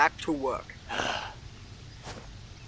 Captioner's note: sigh